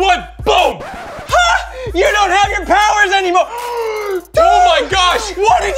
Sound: gasps

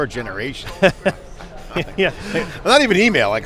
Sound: laughs

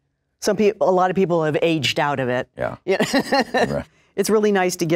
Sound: laughs

